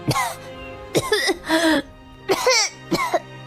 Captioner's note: coughs again